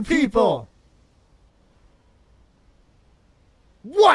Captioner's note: silence